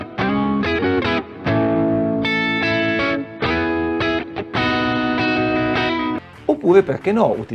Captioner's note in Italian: Applauso